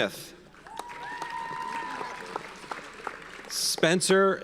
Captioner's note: audience cheers and applauds